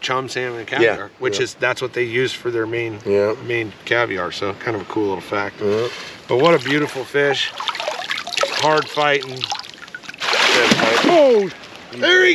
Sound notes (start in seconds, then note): 10.1 fish thrashing; 10.8 fish splashing